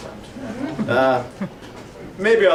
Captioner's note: audience chuckling